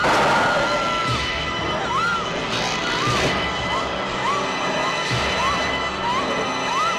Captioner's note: stone crashing; suspenseful music; girls screaming